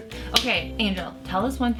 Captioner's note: arms clapping